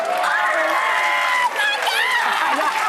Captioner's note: audience cheering